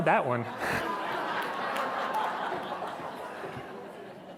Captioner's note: laughter